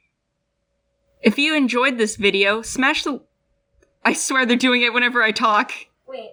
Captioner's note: laugh; stomp